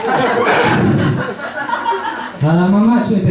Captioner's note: audience laughs; laughs